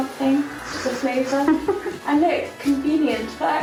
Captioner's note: laughs